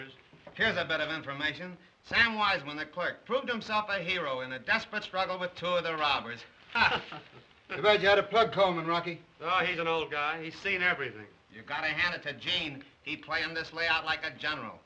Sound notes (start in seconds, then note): 6.6 chuckles